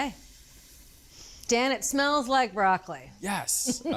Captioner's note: sniffs